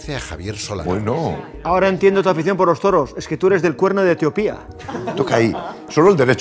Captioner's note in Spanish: Risas